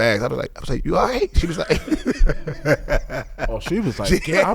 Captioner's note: laughing; laughs